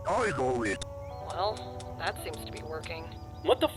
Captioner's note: trigger Clicking